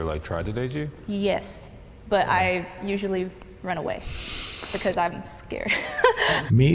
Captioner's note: laughs